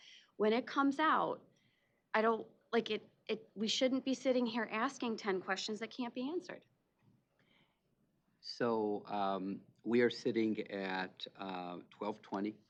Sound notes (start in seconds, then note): none